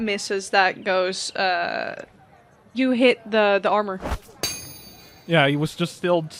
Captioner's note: whoosh followed by a metal clang